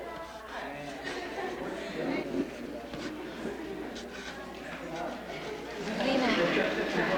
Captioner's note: background chatter